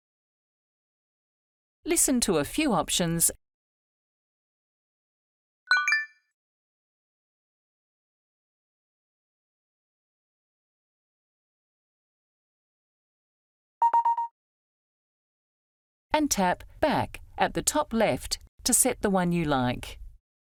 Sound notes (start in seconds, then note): 5.7 bells chiming; 13.8 cell phone beeping